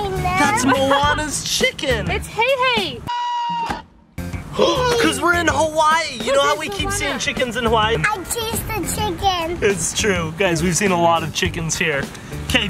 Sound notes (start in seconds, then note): 3.1 squawk abruptly cuts out; 3.1 rooster squawking; 4.5 gasps